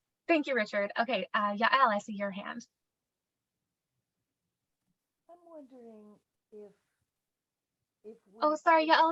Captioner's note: very quiet